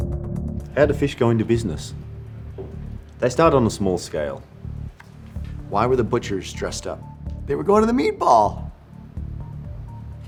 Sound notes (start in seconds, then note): none